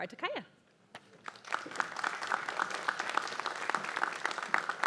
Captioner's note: applause